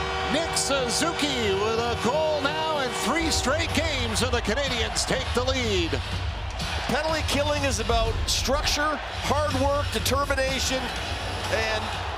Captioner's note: applause; horn; cheering; applause